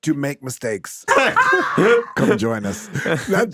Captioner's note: everyone laughing